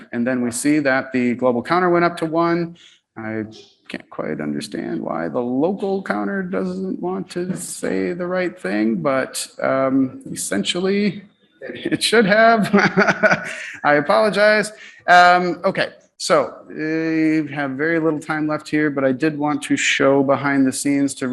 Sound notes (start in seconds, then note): 11.6 laughs